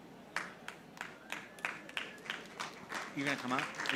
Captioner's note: audience applauding